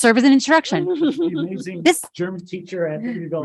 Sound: woman chuckles

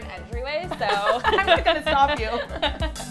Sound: both laughing

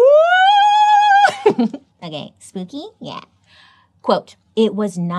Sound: laughs

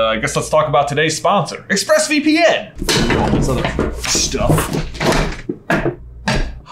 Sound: none

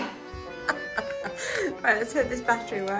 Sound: laughs

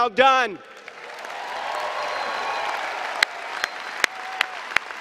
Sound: applause and cheering

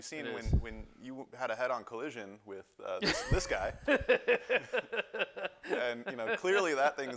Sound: laughter

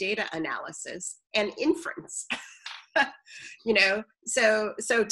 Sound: laughs

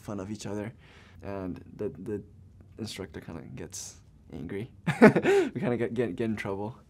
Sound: laughs

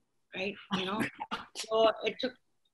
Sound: chuckling

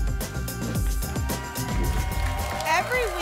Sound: applause and cheering

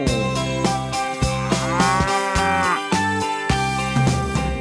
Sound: cow mooing

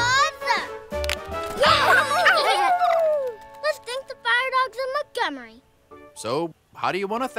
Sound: cheering

